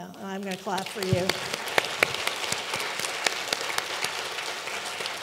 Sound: all clapping

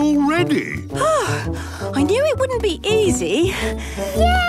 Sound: panting

